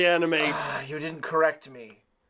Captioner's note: sigh